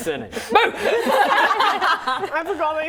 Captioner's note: laughing